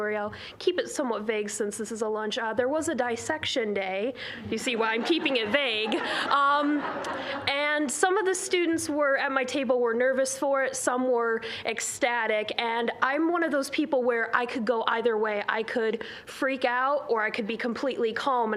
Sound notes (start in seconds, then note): 4.6 audience laughing